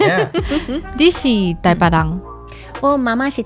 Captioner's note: laughing; Taiwanese